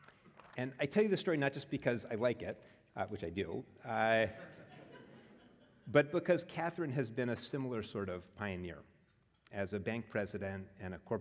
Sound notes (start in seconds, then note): 4.3 laugh